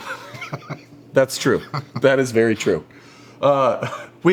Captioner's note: laugh